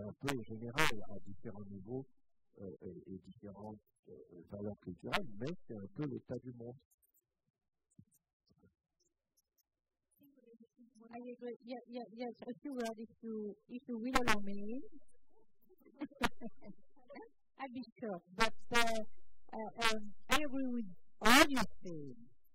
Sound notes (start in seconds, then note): 15.8 laughter